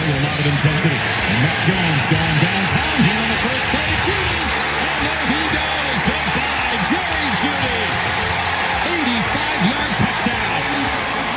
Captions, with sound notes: Bringing a lot of intensity, Mac Jones goin' downtown here! On the first play and there he goes! Good dive Jerry Jeudy! (cheering) 85 yard touchdown!